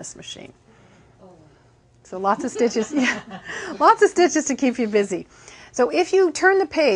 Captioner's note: laughing